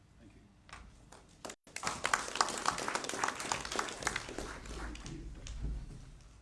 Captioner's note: applause